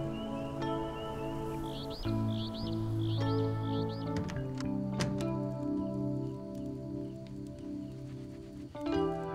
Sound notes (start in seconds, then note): 1.5 birds chirping; 4.9 door closes